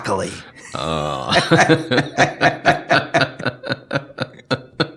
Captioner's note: laughing